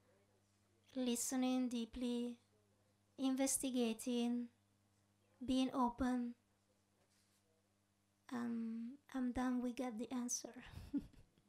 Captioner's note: chuckles